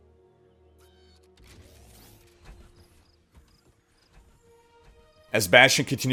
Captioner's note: footsteps